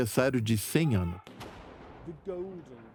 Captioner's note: cannons booming